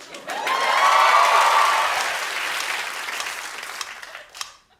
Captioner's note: cheers and applause